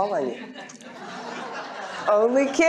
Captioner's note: laughter